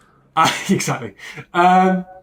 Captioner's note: laughs